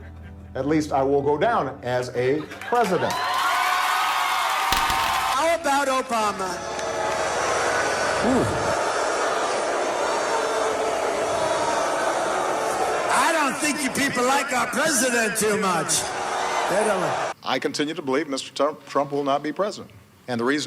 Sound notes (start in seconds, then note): 3.5 crowd cheering; 7.0 crowd booing